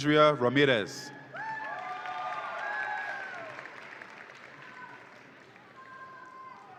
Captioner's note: audience applauds and cheers